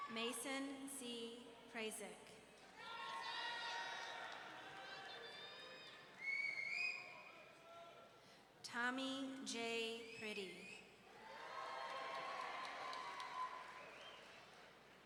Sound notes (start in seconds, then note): 2.8 audience cheering; 6.2 audience member wolf-whistling; 11.2 audience cheering